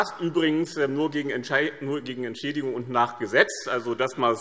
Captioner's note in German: none